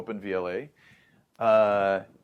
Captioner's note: inhales